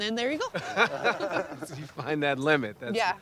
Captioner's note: all laughing